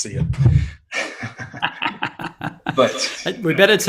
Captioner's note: chuckling